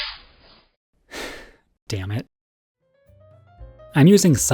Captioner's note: sigh